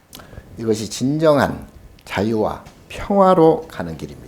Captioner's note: speaking Korean